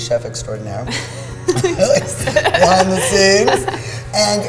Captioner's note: laughing